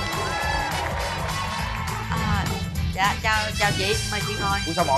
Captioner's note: applause